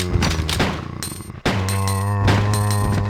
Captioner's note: gunshots